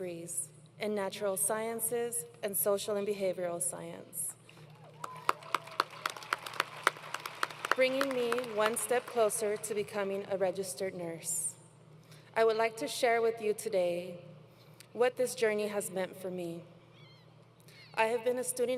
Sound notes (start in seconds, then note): 4.6 applause